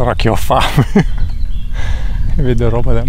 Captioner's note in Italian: risate